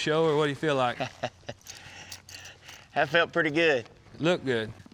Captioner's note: chuckling